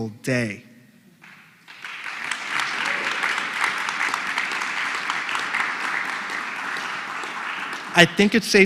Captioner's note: applause